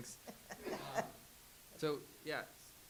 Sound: laughs

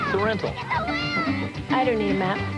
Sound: kids yelling

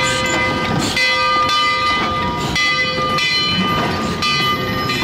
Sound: train chugging; bell tolling

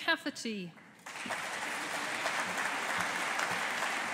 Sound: audience applauding

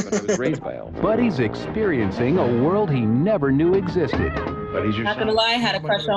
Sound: chuckles; voice-over

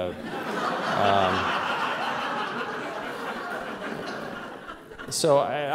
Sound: laughter

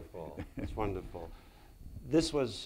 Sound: laughs

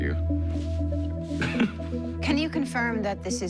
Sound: chuckles

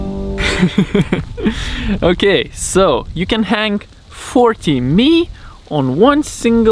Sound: chuckling

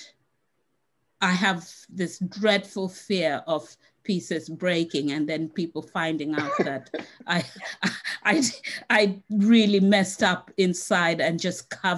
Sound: laughs

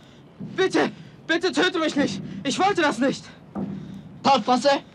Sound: German

